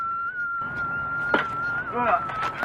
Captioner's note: helmets colliding